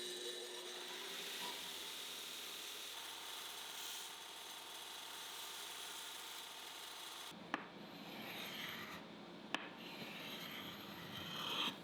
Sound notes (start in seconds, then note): 0.0 grinder whirring; 7.9 hardware scraping